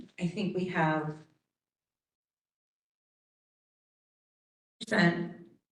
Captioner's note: audio cut